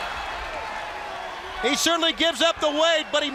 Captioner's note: crowd cheering